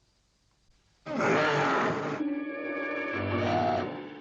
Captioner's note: werewolf growling; dramatic music